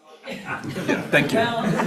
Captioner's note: attendees laughing